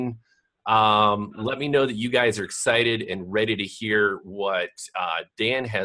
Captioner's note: laughs